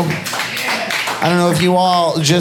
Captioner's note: audience applauding